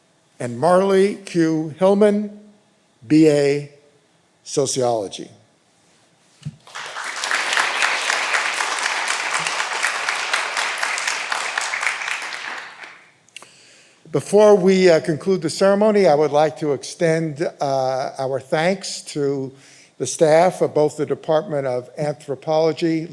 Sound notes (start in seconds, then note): 6.6 all applauding